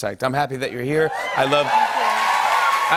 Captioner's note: cheers and applause